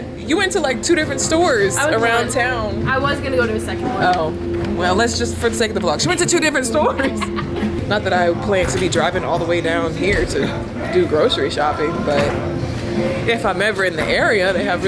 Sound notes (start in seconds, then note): 6.7 laughs